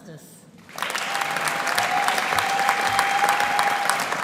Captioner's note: audience applauding